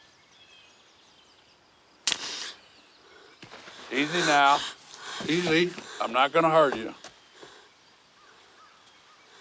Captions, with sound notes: (twig cracks, Moon gasps) - Easy now, easy. I'm not gonna hurt you.